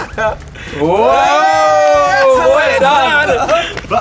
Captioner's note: cheers